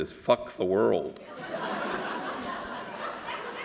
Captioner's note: laughter